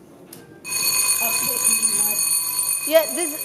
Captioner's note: plenary bell rings